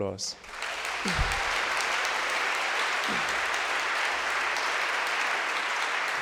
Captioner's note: audience cheering and applauding